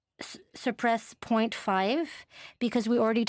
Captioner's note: speaking French